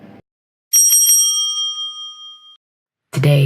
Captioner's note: bell rings